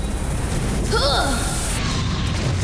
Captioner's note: grunting